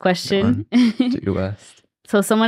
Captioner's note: chuckles